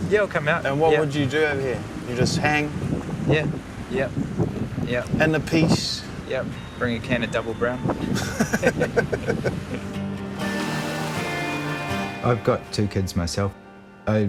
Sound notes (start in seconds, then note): 8.0 both laughing